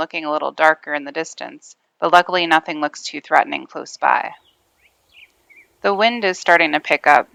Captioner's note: bird chirping